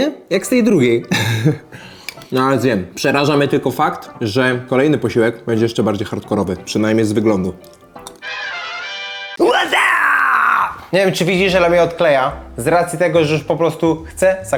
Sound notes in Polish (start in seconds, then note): 9.4 krzyk